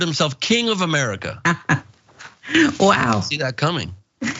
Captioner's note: laugh